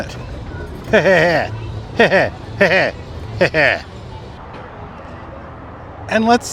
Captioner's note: laughing